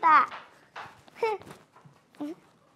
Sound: A lighthearted laugh

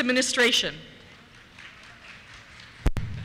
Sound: applause

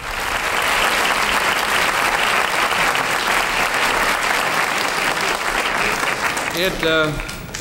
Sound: audience applauding

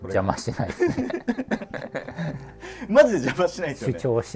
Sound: laughing

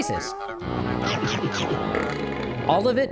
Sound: chomping, burps

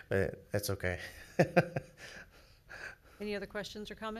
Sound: laughing

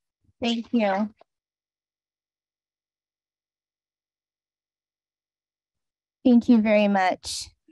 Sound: silence

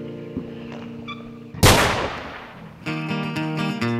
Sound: disparo

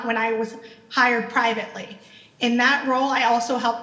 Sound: none

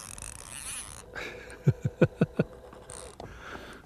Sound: laughter

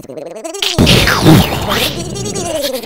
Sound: explosion

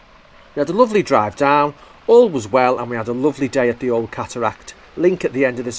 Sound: voiceover

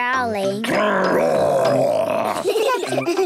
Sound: growls; giggling

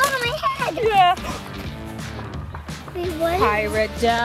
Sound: gasps

